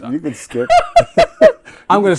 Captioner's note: laughing